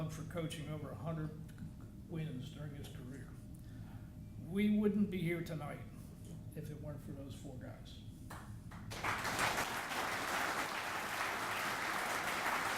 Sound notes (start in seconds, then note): 8.8 audience applauding